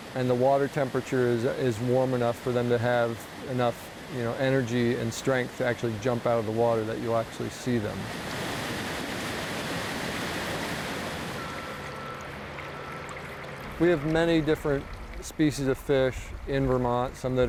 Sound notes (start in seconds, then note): 8.4 water rushing